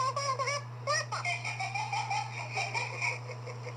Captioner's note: Andy Giggles